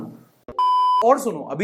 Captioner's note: beep